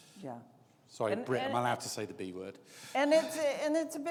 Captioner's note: laughs